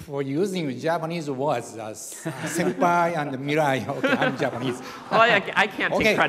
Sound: laughter

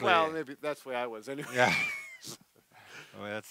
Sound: both laugh

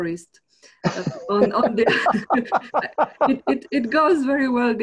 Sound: both laughs

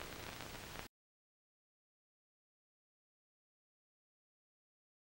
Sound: silence

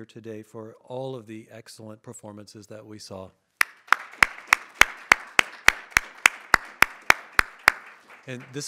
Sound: audience applauding

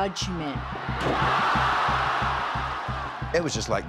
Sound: crowd shouting

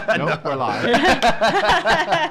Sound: laughs

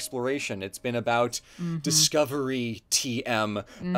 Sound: laughs

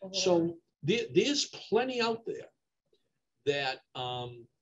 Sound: mumbles

